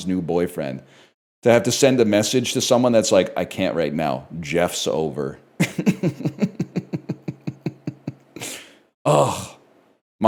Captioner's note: laughs